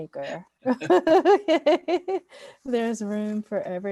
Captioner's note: laughs